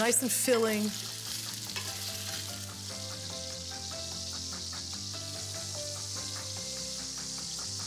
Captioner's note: sausage sizzling